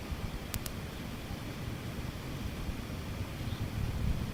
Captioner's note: wind blowing